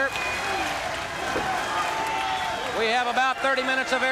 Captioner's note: crowd cheering